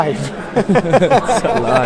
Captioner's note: laughing